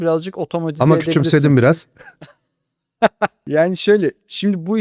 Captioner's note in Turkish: kahkaha